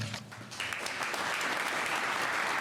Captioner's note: applause